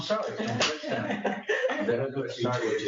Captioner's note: laugh